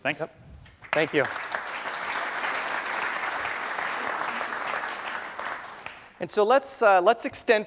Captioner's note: applause